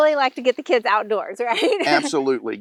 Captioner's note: laughs